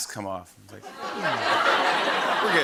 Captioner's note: laughter